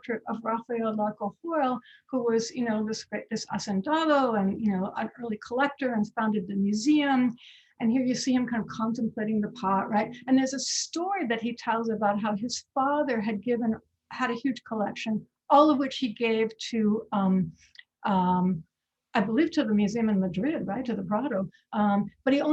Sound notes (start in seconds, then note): 3.8 speaking foreign language